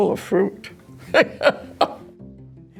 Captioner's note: laughs